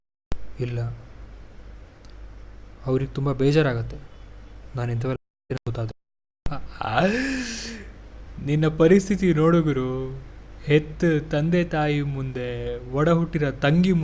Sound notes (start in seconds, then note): 6.8 laughs